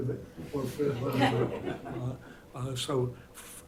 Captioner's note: laughter